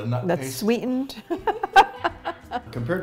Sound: laughs

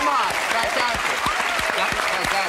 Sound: applause

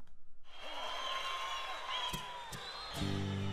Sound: audience applauding

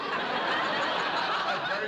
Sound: laughter

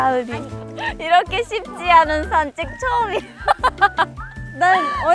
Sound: bitter laugh

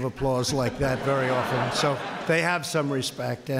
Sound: laughter

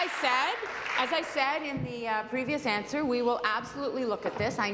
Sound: applause

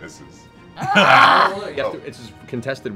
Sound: laughing

